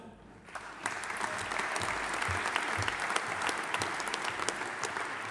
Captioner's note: audience applauding